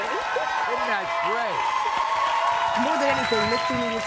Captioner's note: audience cheering and applauding